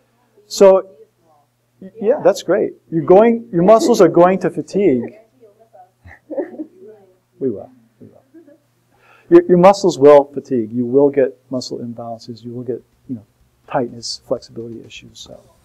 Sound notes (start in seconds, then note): 5.1 student mumbling